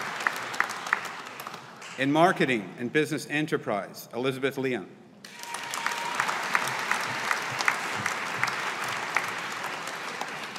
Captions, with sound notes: In Marketing and Business Enterprise, Elizabeth Lyon. (AUDIENCE APPLAUDING)